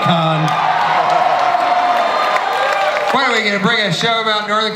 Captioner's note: audience cheers